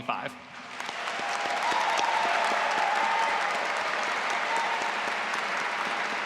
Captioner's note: audience applauding and cheering